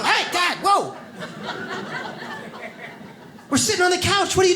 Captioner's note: audience laughs